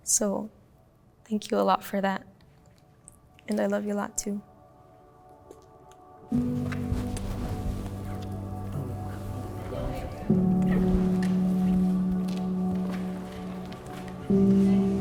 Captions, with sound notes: so thank you a lot for that. And I love you a lot too. (mellow music) (group lightly chattering)